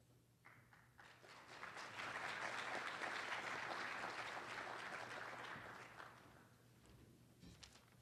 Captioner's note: applause